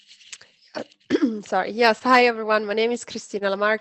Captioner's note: cough